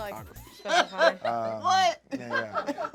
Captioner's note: laughing